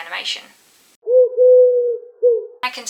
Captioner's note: pigeon noise